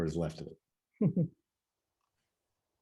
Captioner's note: chuckles